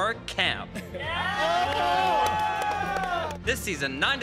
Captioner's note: group cheering and clapping